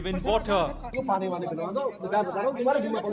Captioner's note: speaking hindi